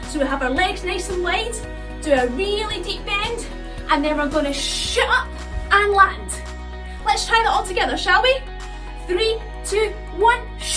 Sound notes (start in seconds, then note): none